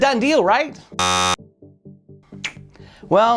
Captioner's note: buzzer buzzing